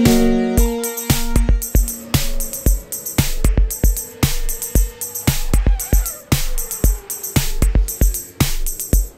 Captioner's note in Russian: шум транспорта